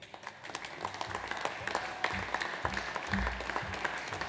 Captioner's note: audience applauds